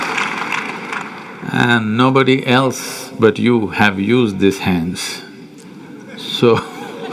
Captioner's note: laughter